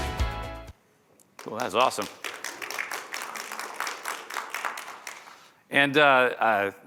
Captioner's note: applause